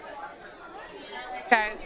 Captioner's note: audience murmuring